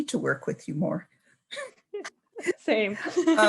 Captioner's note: both laughing